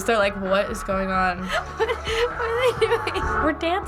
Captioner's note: Madison laughing